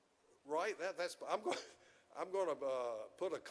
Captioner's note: chuckles